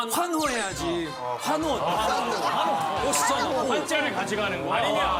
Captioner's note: cheer